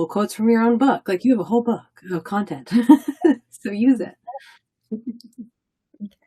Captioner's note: laughs